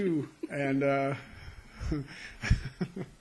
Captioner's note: laughing